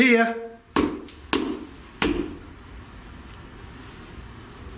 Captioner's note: stomping